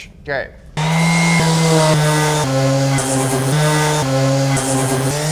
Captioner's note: sander whirring